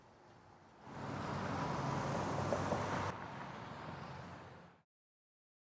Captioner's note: car engine humming